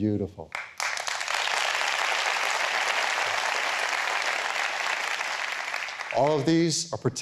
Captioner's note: applause